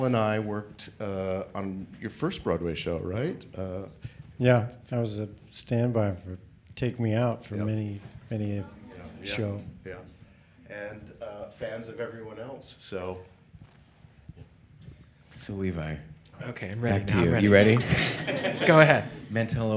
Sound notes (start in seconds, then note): 17.6 audience laughing; 17.6 chuckles